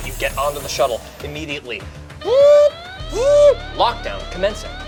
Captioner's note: sirens blare